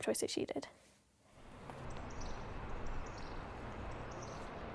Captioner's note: traffic